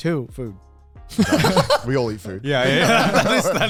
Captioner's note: men laugh; laughs